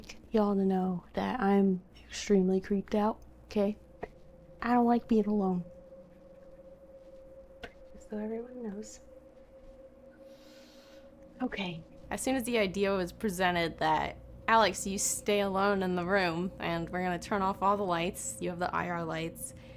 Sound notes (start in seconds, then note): 10.0 inhales